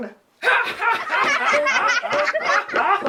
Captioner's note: laughter